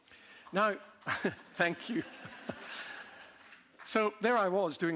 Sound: some clapping; audience laughing

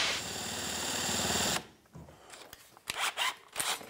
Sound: drill buzzing

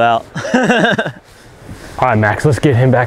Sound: laughing

